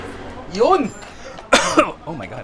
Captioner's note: coughs